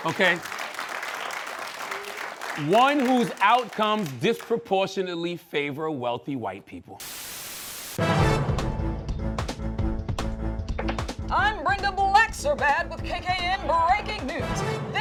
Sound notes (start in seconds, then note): 0.0 applause; 7.0 static